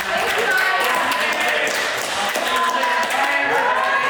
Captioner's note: cast and crew applauding